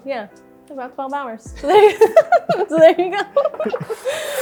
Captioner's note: laughs